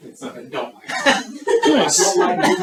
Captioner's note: group laughing